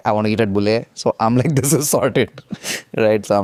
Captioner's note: laughs